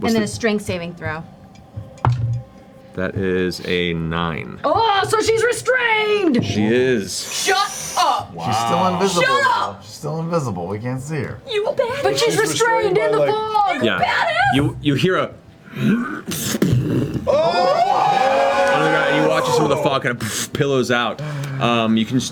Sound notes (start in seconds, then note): 16.6 growl and impact; 17.3 all yell and cheer